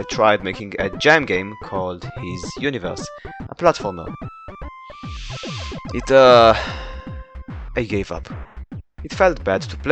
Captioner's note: inhales